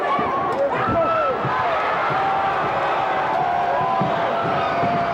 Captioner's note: crowd cheers